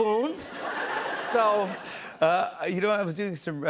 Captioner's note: laughter